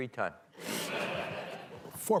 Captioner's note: laughter